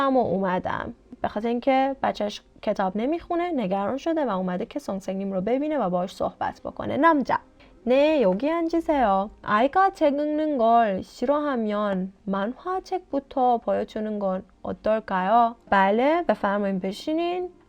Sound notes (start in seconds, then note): 7.1 Korean audio